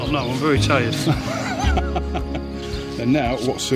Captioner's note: laughing